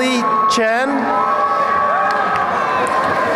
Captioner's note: cheering